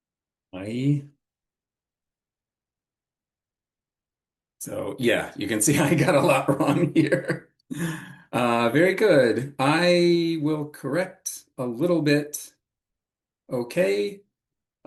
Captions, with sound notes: ... mói ... So yeah, you can see [laugh] I got a lot wrong here. Uh, very good. I will correct a little bit. OK?